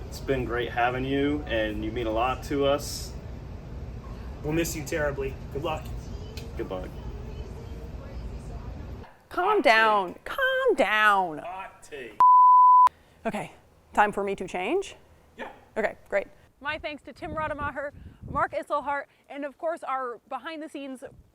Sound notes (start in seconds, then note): 12.2 production tone beeps